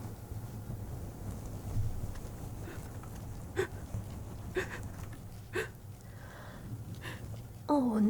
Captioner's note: sobbing